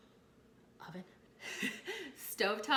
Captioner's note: laughs